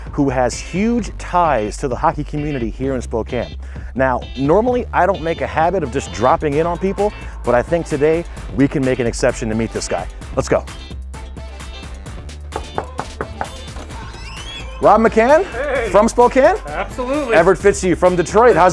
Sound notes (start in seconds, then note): 12.5 wooden knocking; 12.5 hinges squeaking